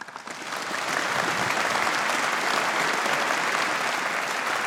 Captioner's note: audience applauding